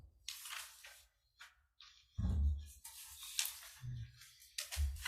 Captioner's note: paper rustling loudly